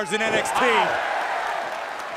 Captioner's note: cheers & applause